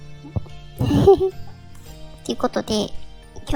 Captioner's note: laugh